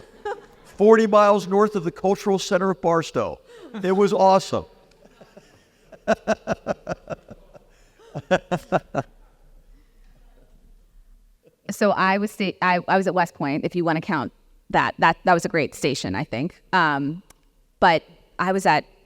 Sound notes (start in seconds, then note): 0.0 laugh; 4.9 laugh